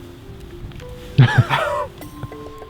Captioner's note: laughs